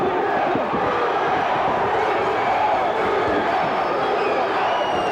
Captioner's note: crowd chants "Duggan"